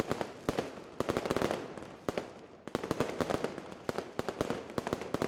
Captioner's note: fireworks explosions